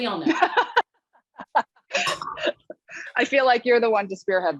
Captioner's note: laughter